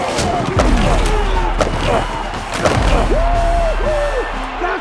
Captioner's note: bodies crunching